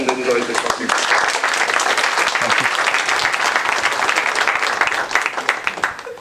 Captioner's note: applause